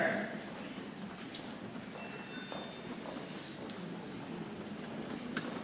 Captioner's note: people chattering softly